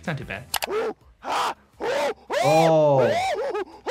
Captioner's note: grunting